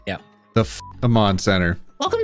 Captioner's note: beep